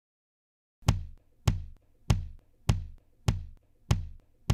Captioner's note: simulated heart beat sound